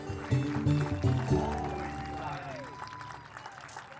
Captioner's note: audience applauds